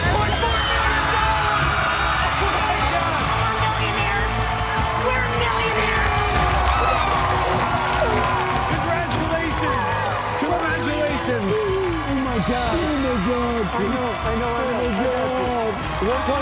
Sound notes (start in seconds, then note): 7.6 crowd cheering